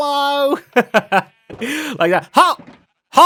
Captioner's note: laughs